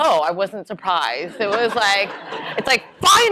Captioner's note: laughter